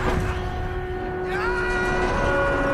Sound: screaming

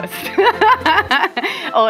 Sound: laughs

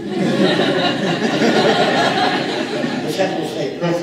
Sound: laughing

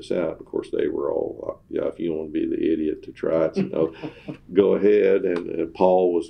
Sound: laughter

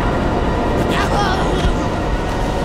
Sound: grunting

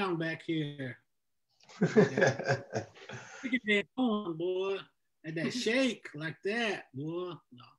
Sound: audio distorts

